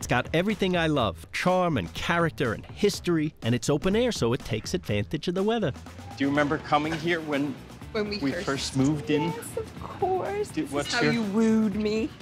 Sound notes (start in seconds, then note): none